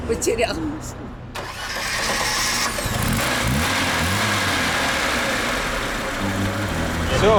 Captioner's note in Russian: работает двигатель